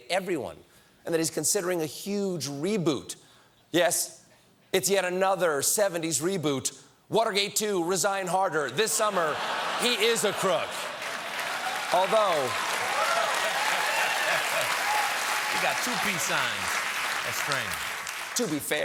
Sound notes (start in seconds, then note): 12.0 cheers and applause